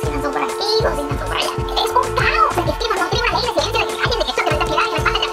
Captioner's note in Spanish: hablando rápido